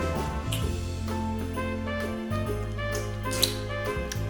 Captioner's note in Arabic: موسيقى كلاسيكية; أصوات تقبيل